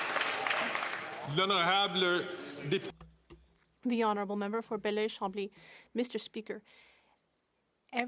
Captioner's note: some Applause